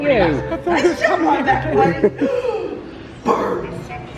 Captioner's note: laughing